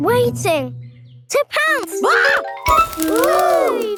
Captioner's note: screams